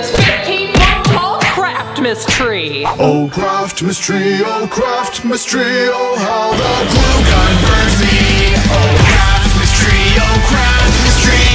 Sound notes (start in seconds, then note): 2.9 voiceover